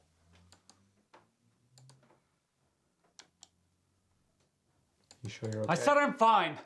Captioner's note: computer mouse clicking